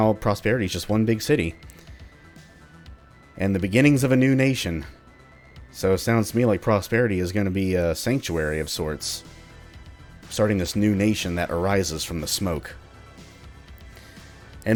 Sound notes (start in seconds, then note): none